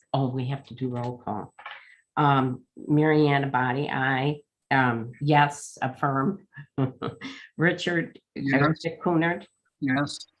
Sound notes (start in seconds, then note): 5.9 laughs